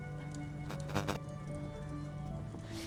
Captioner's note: transition clicks; static buzzes; gentle solemn music